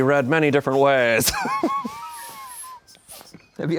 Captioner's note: laugh